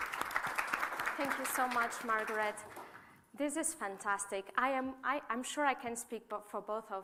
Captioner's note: applause